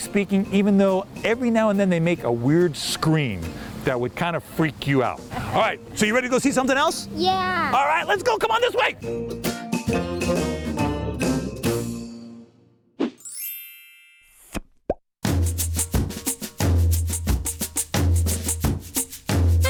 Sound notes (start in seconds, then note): 13.2 chimes; 15.2 upbeat drum music